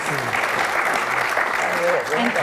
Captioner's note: applause